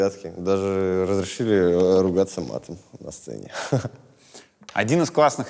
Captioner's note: chuckles